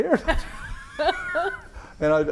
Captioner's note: laughs